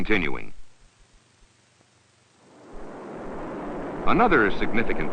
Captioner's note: sound of Engines Firing